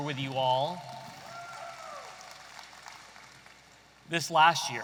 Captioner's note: audience applauding